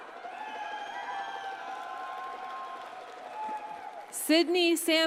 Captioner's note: audience cheers and applauds